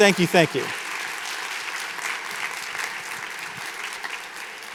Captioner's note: audience applauding